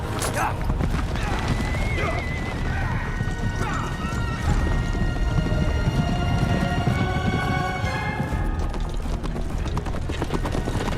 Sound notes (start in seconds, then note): 1.9 men urging their horses